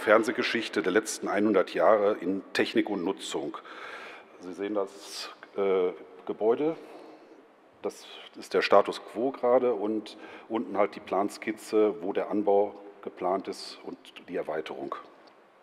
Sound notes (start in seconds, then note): none